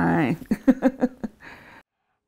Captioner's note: chuckles